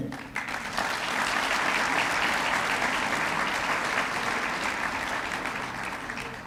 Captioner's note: applause